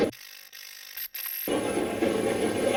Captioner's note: static fizzing; static playback transmitting